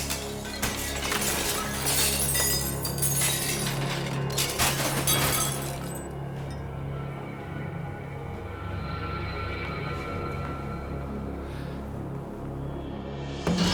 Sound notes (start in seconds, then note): 0.0 intensified ceramic shattering